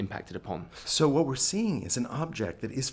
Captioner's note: voiceover